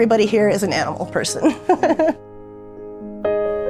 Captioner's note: laughs; soft music